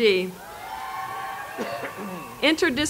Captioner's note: applause